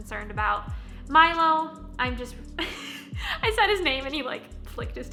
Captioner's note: chuckles